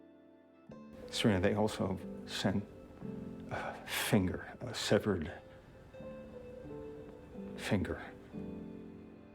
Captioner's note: voiceover